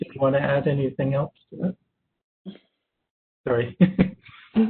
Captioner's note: chuckles